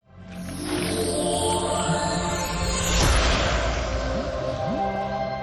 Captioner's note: water splashing